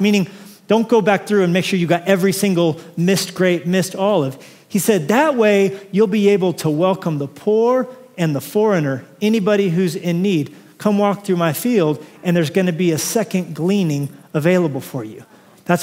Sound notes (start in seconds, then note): none